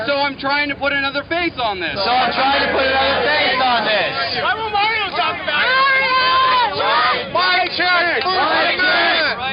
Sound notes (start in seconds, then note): 4.2 voiceover